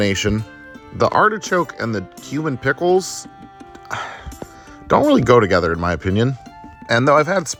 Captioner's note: sigh